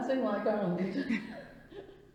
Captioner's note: laughs